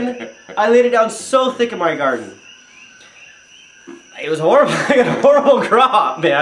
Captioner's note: chuckles; chuckles